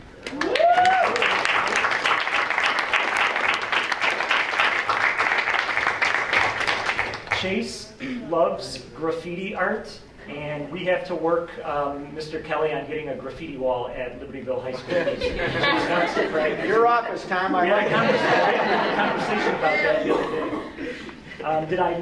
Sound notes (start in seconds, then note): 2.2 applause; 17.7 laughter